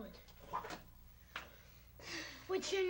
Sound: sigh

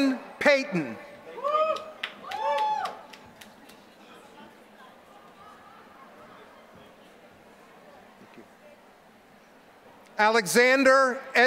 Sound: applause

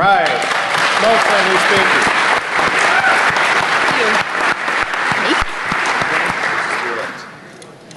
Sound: applause

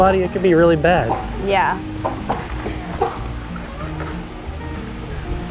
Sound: trampoline clacking

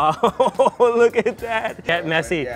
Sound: laughs

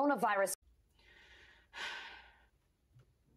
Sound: sigh of despair

